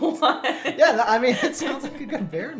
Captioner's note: laughter